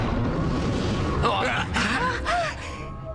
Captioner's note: grunting